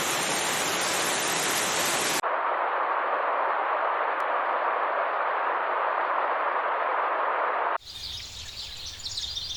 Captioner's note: birds chirping